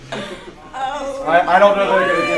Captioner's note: laughter